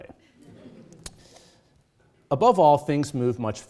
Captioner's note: audience chuckles